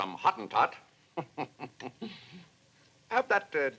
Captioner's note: chuckles